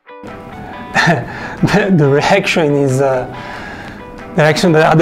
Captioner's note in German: lacht